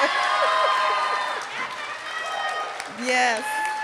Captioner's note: cheering and applause